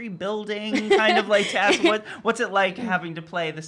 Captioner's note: laughing